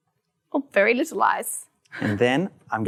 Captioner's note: laughs